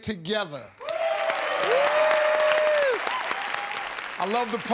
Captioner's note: cheers and applause